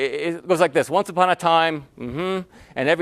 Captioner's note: hmm